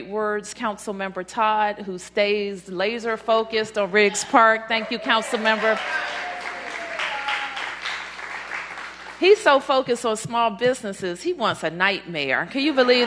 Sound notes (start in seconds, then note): 7.8 applause